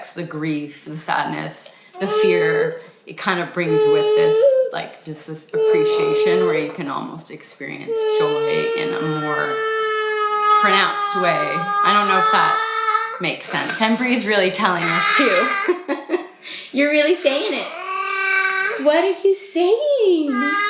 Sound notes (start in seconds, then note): 16.2 laughs; 18.0 vocalizing